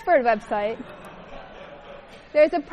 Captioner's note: laughter